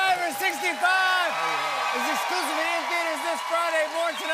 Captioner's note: cheers and applause